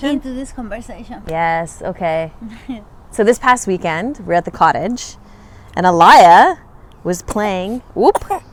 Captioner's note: cough